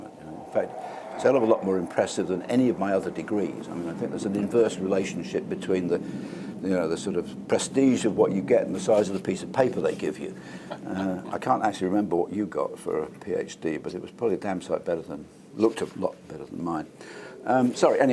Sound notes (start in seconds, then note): 10.3 laugh